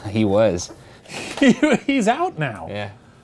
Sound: chuckles; laughs

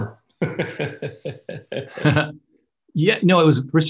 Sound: laughs

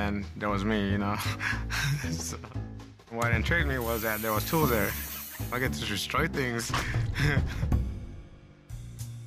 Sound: laughter

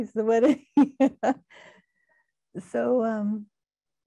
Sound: laughing

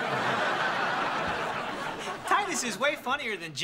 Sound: laughing

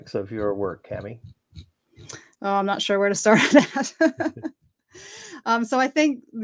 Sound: laughs

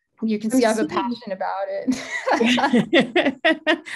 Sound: laughs

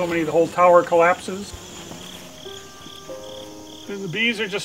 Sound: crickets chirping

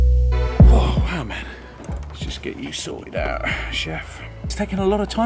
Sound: exhails

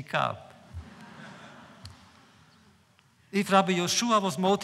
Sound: laughter

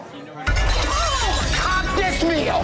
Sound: plate shattering

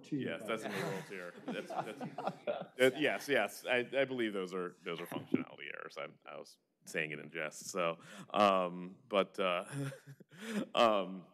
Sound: laughter

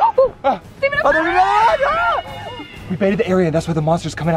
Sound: all screaming

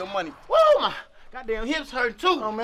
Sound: exclaims

